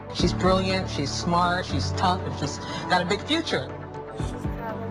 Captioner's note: speaking foreign language